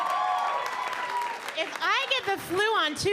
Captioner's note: audience cheering